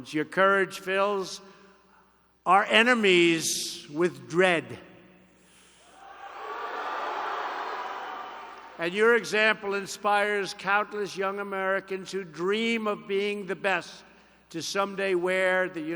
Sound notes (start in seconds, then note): 5.2 applause